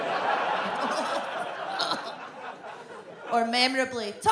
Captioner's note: gags